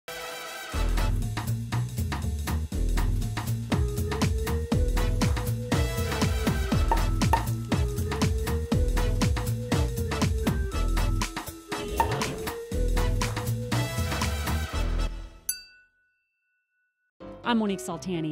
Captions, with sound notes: (upbeat music) (glasses clinking) - I'm Monique Soltani.